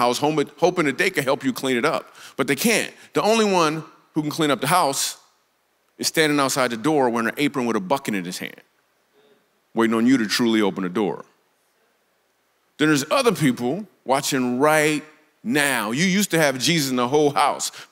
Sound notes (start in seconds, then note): none